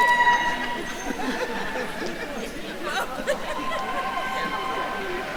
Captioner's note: attendees cheering; attendees laughing